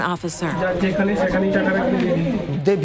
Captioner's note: conversation in foreign language